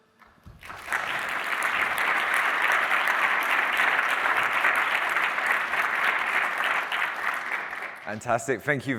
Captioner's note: applause